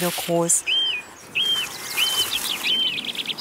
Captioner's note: birdsong